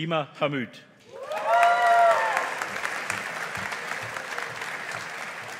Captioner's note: audience applauding